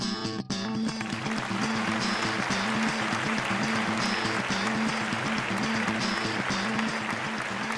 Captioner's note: applause